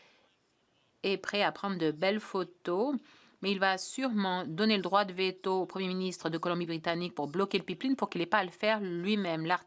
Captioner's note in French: voix de l'interprète